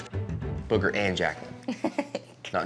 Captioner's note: giggles